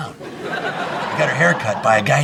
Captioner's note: audience laughing